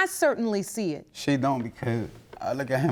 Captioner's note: voice breaking